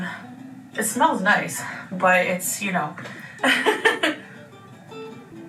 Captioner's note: laughs; cheery music